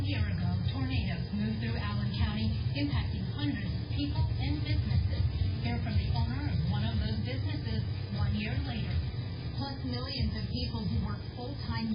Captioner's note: "21Alive News at 4" teaser plays in background